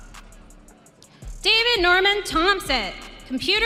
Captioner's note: audience cheering